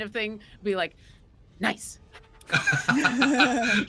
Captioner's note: pants